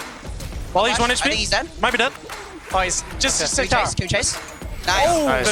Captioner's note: teammates communicating